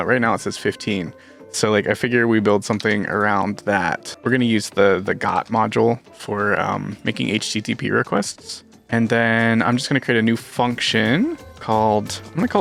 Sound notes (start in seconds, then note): none